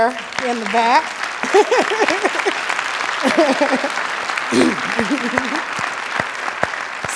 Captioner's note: applause